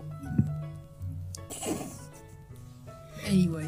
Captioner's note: holds in a laugh